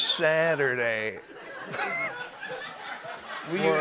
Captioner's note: laughter